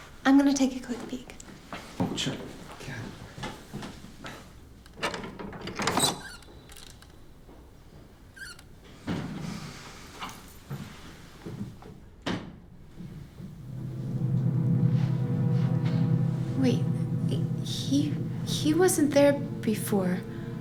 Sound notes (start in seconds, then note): 4.8 handle clattering; 7.0 door creaking; 13.4 haunting music